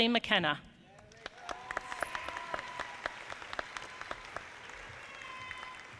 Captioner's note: audience applauding